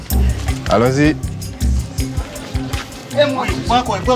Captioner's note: French spoken audio